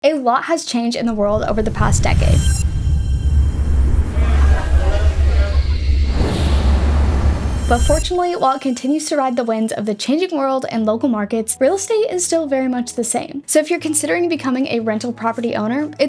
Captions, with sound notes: - A lot has changed in the world over the past decade. (crowd Chatter) But fortunately, while it continues to ride the winds of the changing world and local markets, real estate is still very much the same. So if you're considering becoming a rental property owner,